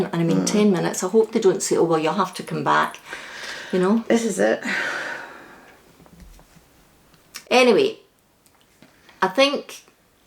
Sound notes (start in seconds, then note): none